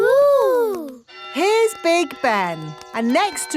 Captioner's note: clock chimes